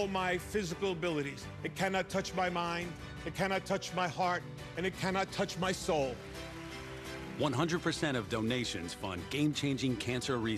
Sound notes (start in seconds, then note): 6.6 applauds